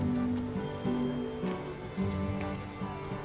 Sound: ringing

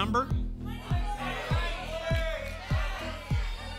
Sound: audience shouting numbers

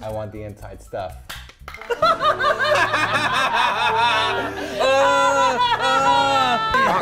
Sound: shouting in victory anguish

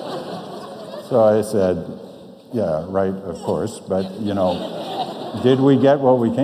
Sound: audience laughs

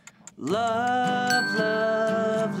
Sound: timer ticking; timer dinging

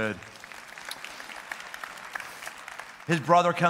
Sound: applause

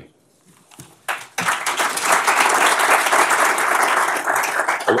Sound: applause

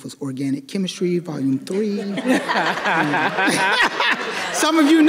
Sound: audience laughing

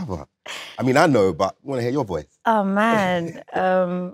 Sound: chuckles

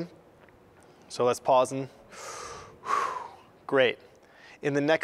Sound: inhales, exhales

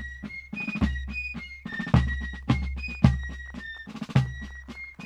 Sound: audience applauding

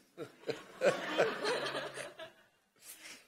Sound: laughing

